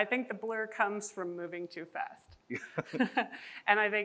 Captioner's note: chuckles